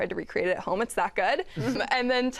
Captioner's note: laughter